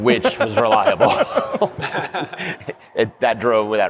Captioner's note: laughter